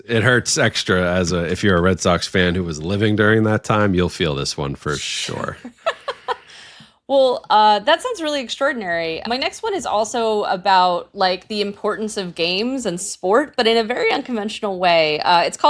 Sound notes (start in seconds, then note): 5.6 laughing